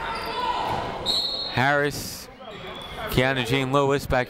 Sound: people shouting in the crowd; whistle tweeting

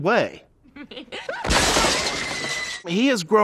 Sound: glass breaks as a loud scream is heard

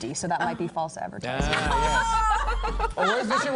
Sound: laughter

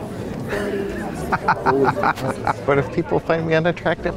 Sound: laughs

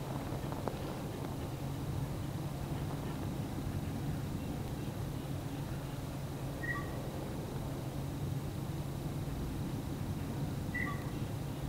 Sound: birds singing, breathing heavily

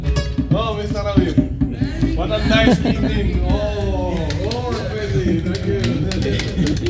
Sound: laughs and jokes in foreign language; clapping

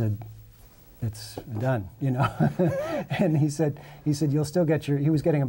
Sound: laughs

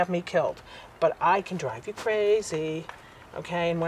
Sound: in sing song

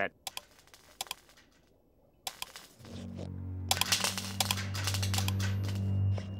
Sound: clicking

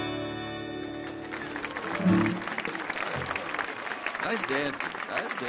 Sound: audience applauding

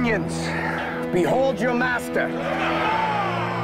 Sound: crowd Roars

